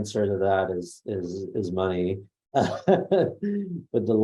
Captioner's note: laughs